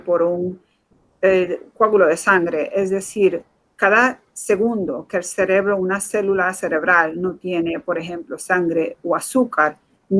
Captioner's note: speaking in Foreign Language